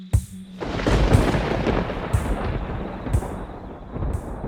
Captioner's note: thunder crashing